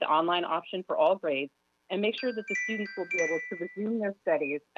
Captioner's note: chime